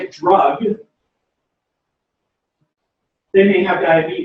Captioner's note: pause